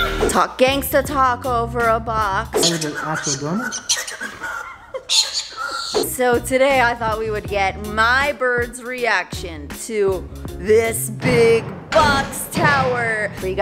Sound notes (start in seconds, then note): 2.6 bird squawking